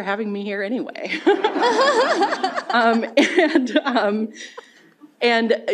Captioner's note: laughter